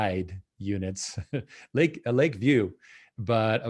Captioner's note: chuckles